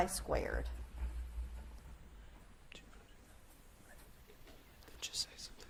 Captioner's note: Edmonson team whispering